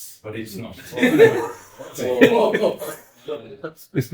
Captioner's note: audience laughs